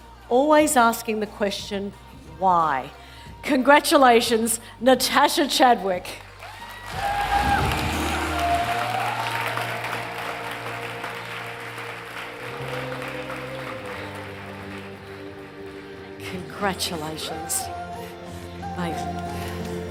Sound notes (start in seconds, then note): 6.7 audience cheers and applauds